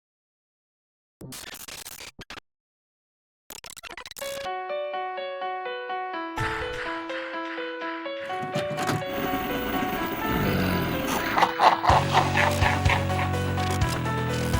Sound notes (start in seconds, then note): 1.3 glitch sound effects; 9.0 growling; 10.3 laugh